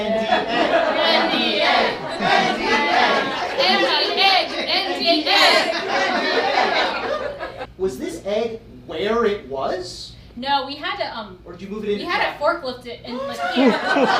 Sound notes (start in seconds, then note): 5.4 laughing